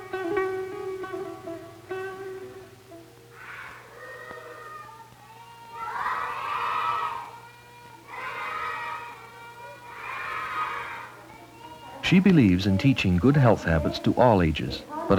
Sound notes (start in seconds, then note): 3.1 chorus of children speaking